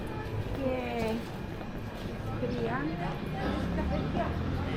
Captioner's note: people chattering